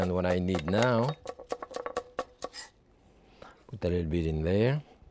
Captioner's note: knife tapping